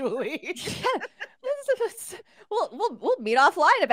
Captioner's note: laughing